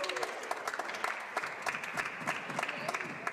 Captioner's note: speaking Alternate Language; applause